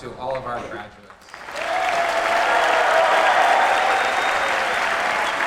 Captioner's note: applause, cheers